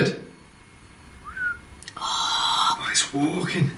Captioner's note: low whistle